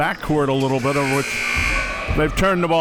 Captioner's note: buzzer blaring